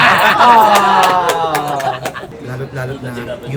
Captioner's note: everybody laughs